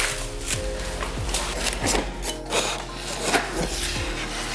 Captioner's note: knife cuts